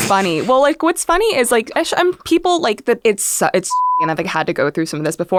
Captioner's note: beep